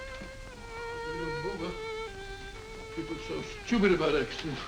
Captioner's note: mumbling to self